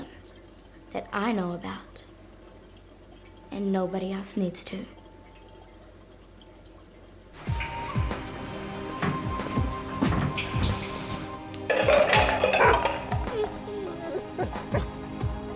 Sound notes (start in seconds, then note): 12.1 cans crashing